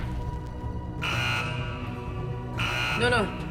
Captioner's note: alarm sounds